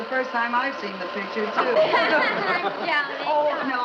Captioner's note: audience Laughing